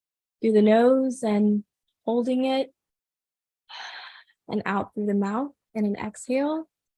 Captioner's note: exhales